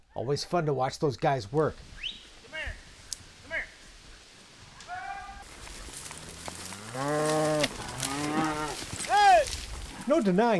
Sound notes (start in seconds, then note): 2.9 whistle; 4.8 shouts; 5.9 cows mooing